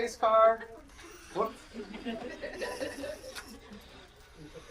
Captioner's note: people laughing